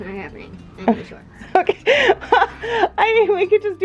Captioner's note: laughing